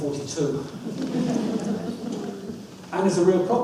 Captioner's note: audience laughs